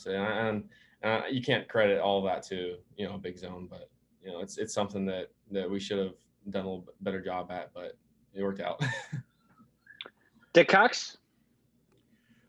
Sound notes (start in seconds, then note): 8.8 chuckles